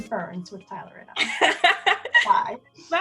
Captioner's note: laughs